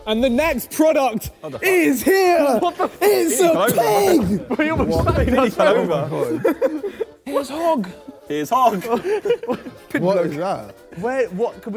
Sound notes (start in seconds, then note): 4.9 Sidemen laugh; 8.7 laughs